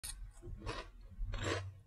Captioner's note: chewing